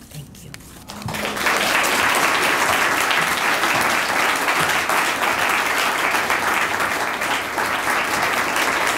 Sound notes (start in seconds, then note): 0.9 audience applauding